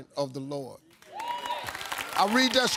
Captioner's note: audience applauding; audience wooing